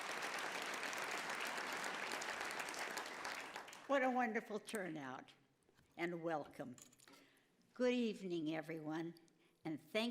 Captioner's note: applause